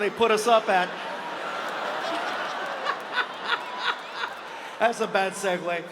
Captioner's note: audience laughs; Gabriel laughs